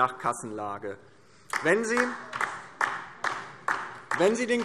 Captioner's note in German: Beifall DIE LINKE